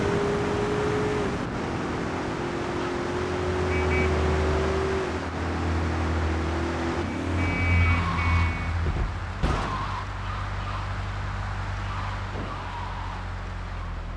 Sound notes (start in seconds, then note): 0.0 engine revving; 3.6 beeping; 6.7 engine revving